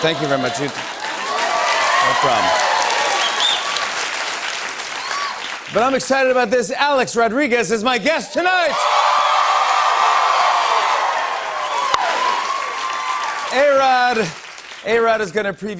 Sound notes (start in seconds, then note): 0.0 cheers and applause; 8.5 cheers and applause